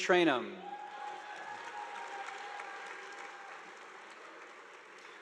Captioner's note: audience applauding